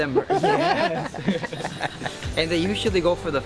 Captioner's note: laughing